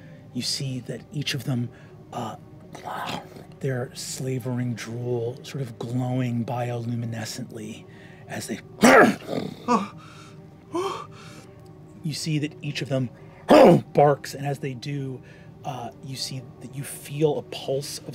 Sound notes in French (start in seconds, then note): 8.9 aboiements et grognements; 10.6 halète